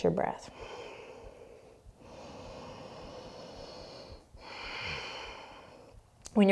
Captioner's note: deep breathing